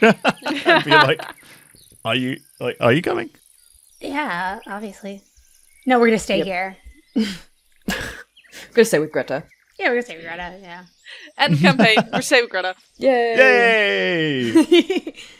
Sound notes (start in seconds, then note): 0.0 laughs; 7.8 chuckles; 11.2 laughter; 14.2 laughter